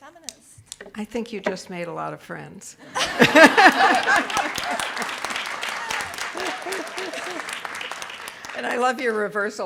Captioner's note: audience laughing and clapping